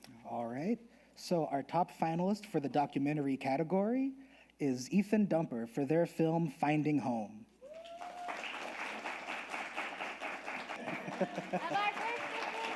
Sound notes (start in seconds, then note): 7.6 audience applauding